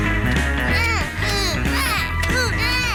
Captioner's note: both grunting